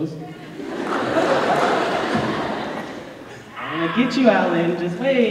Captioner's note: laughter